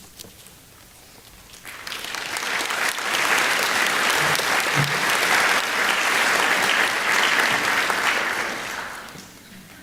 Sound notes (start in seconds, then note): 1.6 applause